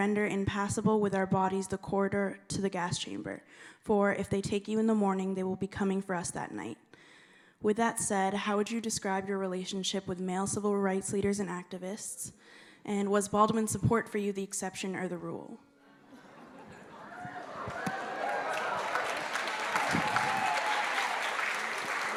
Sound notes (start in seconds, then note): 16.0 laughter; 16.7 cheering; 18.5 applause